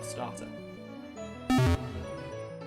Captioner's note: PokéDex Closes